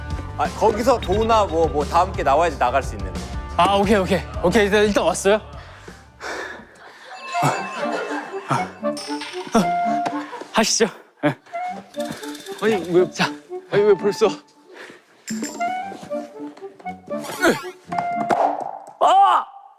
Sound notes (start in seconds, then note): 5.5 breathing that captures his desire to win; 5.5 panting